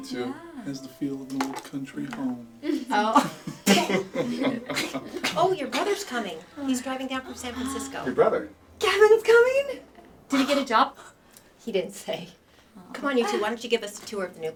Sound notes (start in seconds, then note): 2.6 laughing